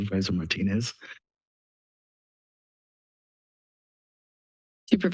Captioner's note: silence